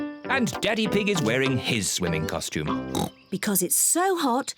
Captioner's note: oinks